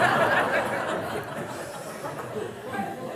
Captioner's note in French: rires